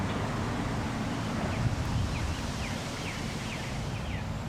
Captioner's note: birds chirping